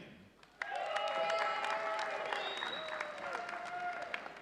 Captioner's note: audience cheering